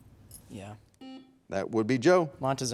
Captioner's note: timer buzzing